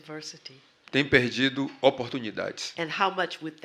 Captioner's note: speaking portuguese